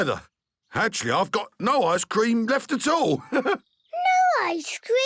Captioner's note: chuckles